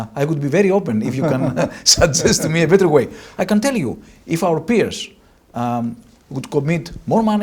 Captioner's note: laughs